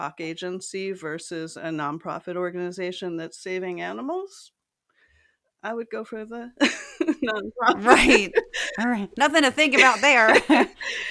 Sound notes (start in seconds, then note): 6.6 laugh